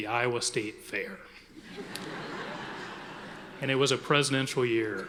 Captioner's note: audience laughing